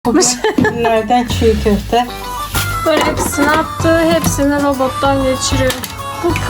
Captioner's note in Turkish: kahkaha